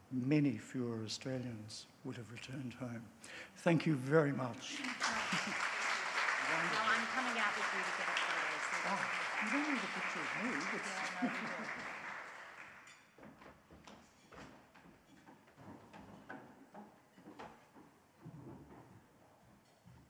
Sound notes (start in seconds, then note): 5.1 audience applauds; 8.5 faintly speaking; 13.6 footsteps thumping